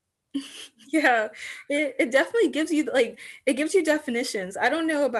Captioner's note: laughs slightly